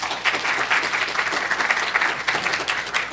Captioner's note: applause